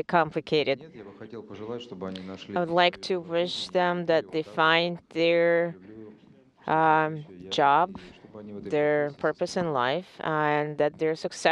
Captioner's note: speaking in native tongue